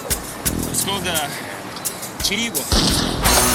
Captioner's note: gunshot